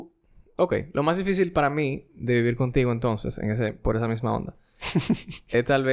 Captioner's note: laughs